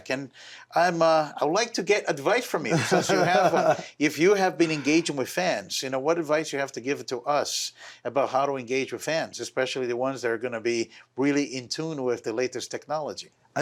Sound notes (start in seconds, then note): 2.6 laughs